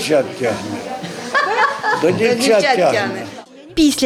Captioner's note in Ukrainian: Cміх